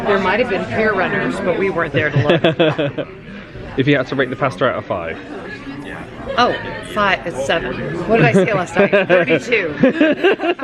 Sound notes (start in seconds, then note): 2.0 laughing